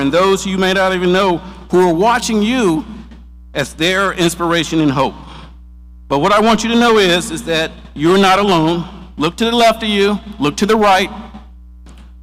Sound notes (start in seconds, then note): none